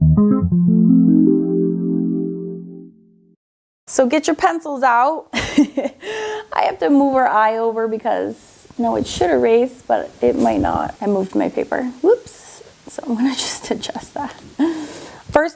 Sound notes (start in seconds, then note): 0.0 whimsical music; 5.4 laughs